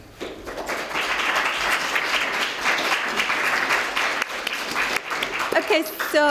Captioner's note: applause